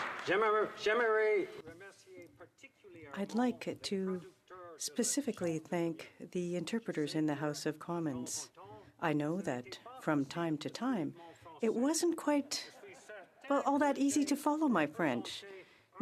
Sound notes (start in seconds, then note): 1.6 applause; 4.7 speaking French